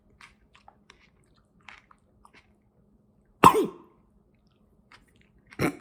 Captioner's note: Chuck coughing and choking